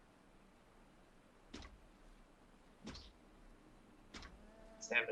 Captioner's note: zapping sounds